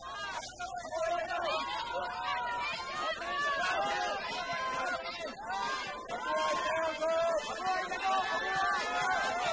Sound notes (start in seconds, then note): 0.0 crowd cheering